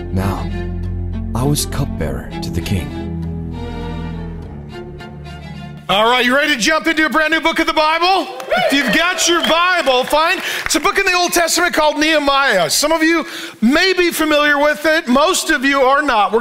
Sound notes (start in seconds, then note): 7.6 congregation applauding